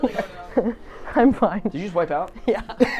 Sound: laughs

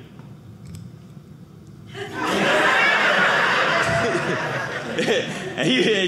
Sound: audience laughing

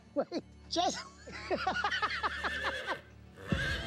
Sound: laughs

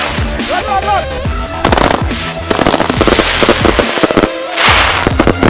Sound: fireworks exploding

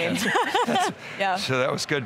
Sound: everyone laughing

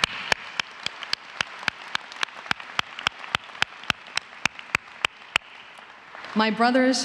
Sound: applause

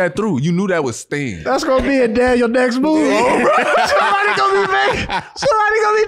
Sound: laughs

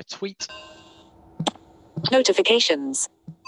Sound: bell rings

